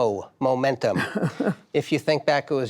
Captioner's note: laughter